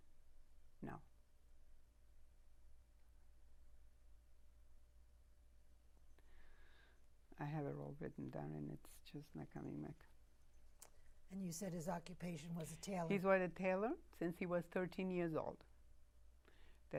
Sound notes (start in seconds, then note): 0.0 pauses 6 seconds